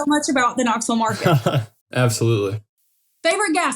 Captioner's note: laugh